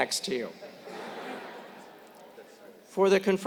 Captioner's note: laugh